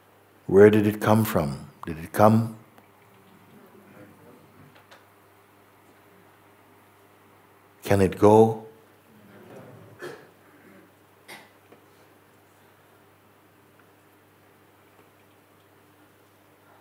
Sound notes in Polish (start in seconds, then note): 12.1 cisza